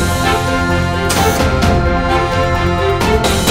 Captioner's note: Door bell